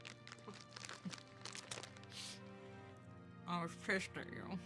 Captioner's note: Sandy chuckles